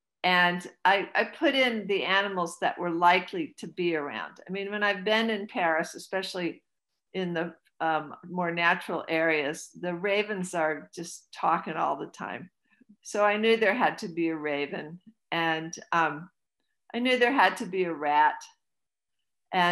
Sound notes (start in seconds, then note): none